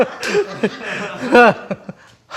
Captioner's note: laughing